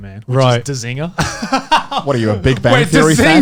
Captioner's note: laughs